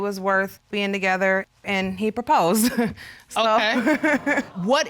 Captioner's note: laughs